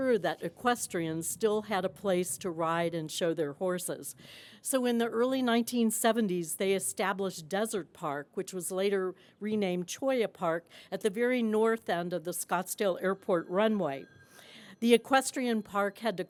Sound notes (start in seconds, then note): none